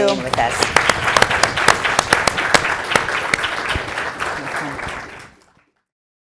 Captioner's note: applause